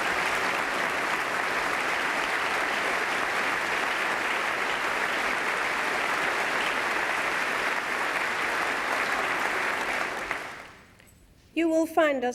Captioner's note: applause